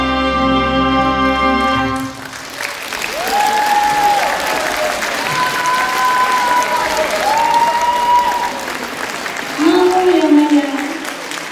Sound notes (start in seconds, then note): 1.8 applause